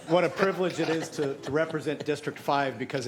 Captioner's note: laughter